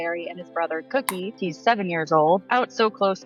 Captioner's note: cookies clicking